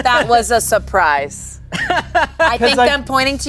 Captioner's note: laughs